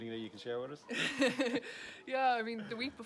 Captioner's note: speakers laughing